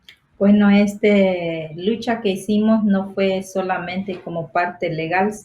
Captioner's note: speaking foreign language